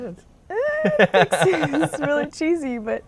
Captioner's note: laughing